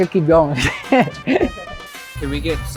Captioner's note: laugh